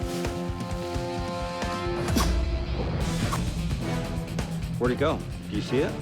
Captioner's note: leaves rustling; blowguns firing